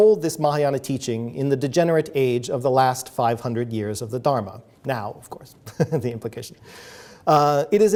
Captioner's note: laughing